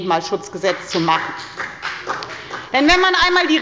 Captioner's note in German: Beifall bei der FDP